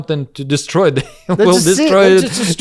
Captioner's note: laughs